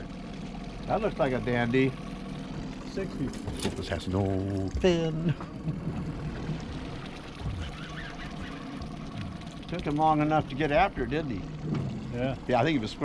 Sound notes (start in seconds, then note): 7.4 laughing; 8.3 boat engine idling; 9.1 reel cranking